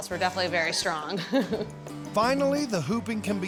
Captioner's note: laughing